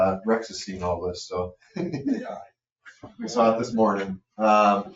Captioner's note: chuckles